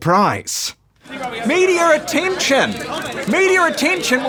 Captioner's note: clamouring